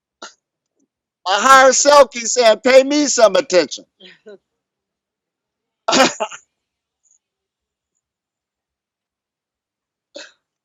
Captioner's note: laughs